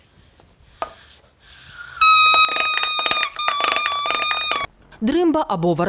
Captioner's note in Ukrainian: Звучить рубель